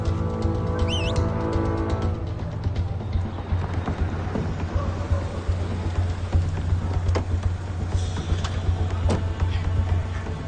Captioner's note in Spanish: Silbido